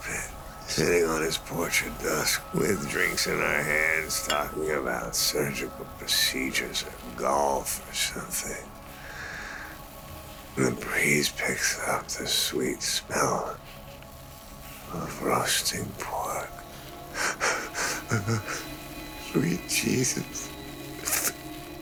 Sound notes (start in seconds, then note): 17.1 breathing heavily